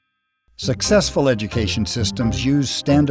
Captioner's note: voiceover